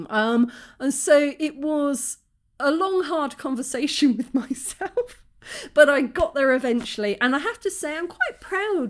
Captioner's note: laughing